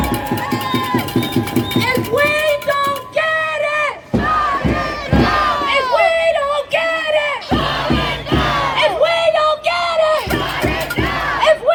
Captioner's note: chant